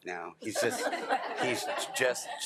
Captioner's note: attendees laughing